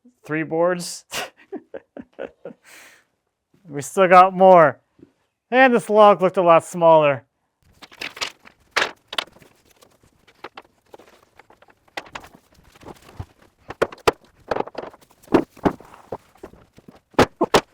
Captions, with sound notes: three boards. (chuckling) We still got more and this log looked a lot smaller.